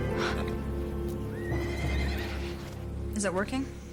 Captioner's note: horse neighing